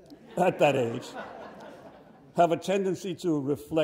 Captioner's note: audience laughs